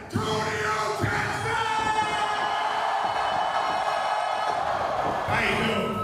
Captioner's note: cheers and applause